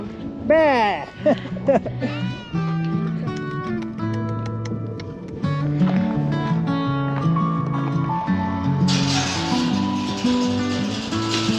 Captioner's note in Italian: Applauso